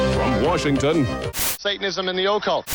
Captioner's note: static